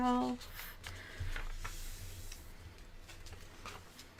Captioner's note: paper rustling